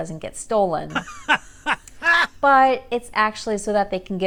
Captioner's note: laughter